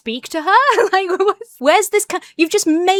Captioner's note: laughs